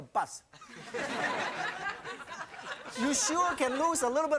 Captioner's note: audience laughing